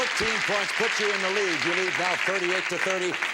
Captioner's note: audience applause